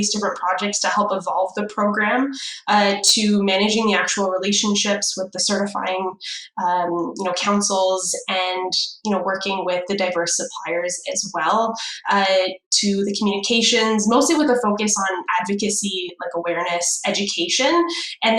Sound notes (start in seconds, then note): none